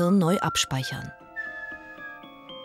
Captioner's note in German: pfeift